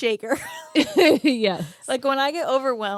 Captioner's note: both laughing